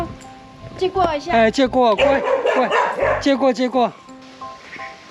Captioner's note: dos' barking